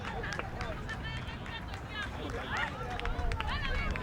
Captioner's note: fans yelling